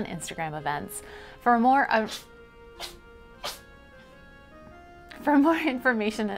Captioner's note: adorable cat sneezes